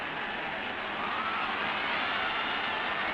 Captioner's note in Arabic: هتاف حاشد